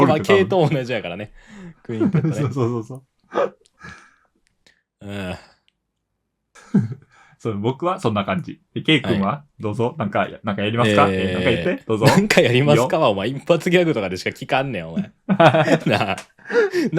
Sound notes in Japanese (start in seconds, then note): 3.8 ため息